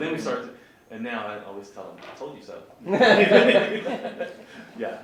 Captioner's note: laughs